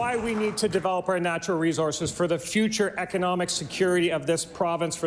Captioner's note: applause